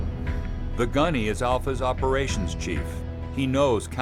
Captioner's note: voiceover